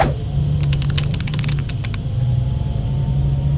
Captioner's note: bus noises